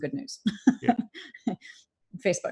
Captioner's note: laughs